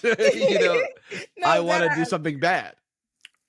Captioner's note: laughs